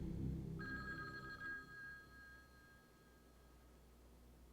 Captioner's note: phone ringing